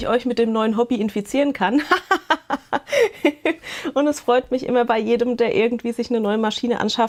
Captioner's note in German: gelächter